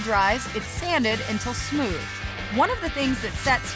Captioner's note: sanding sound